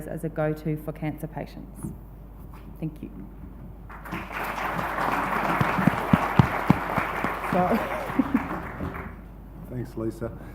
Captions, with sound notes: as a go to for cancer patients. Thank you. (audience applauds) Sorry (laughs) - Thanks, Lisa.